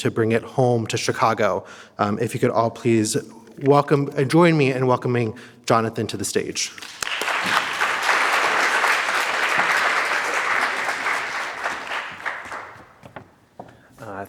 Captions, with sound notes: to bring it home to Chicago. If you could all please welcome, join me in welcoming Jonathan to the stage. (audience applauds)